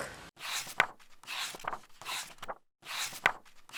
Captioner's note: pages turning